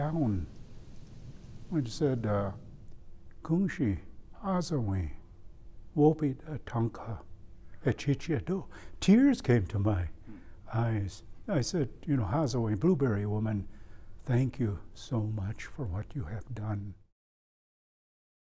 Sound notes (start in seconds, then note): 2.8 speaking native language